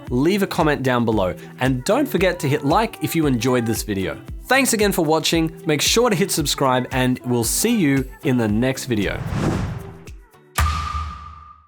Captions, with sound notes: leave a comment down below. And don't forget to hit like if you enjoyed this video. Thanks again for watching. Make sure to hit subscribe, and we'll see you in the next video. (air whooshing) (water droplet splashes)